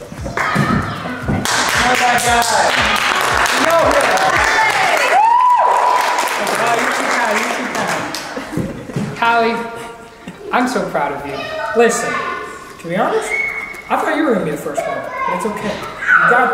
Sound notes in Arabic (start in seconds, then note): 1.4 الضيوف يهتفون ويصفقون